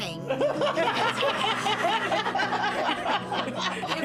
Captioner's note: people laughing